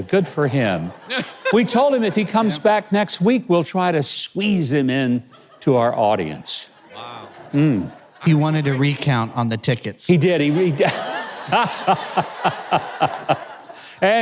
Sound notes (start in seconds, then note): 0.4 audience laughs; 10.5 Mike laughs